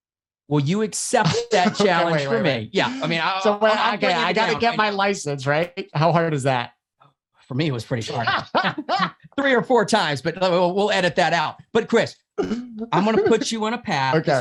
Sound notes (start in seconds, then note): 1.2 laughs; 8.0 laughs